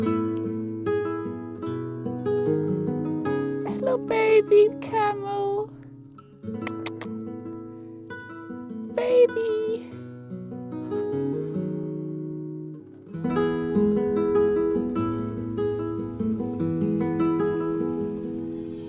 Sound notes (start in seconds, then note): 6.6 clicking; 11.6 tranquil music